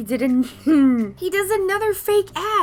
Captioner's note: laughs